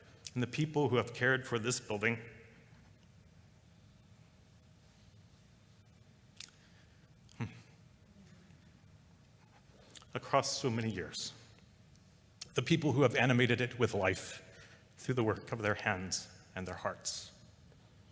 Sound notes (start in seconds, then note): 6.4 sighs